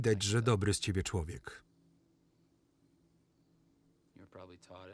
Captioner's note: crickets chirping